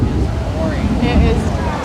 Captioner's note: thunder rolls